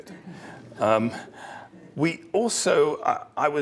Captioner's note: laugh